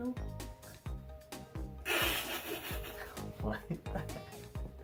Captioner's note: laughter